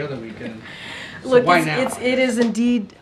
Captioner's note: laughs